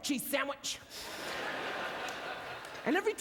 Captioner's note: audience laughter